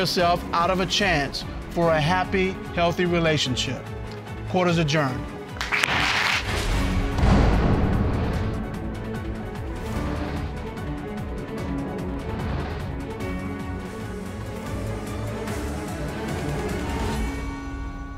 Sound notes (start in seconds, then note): 5.6 audience applauding; 6.0 bangs gavel